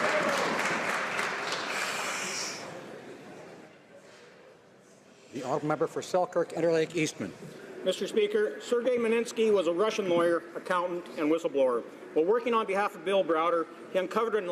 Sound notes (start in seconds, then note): 2.2 applause